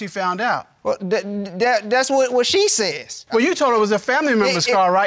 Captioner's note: stammers